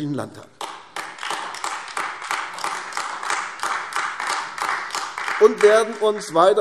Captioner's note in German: Beifall AfD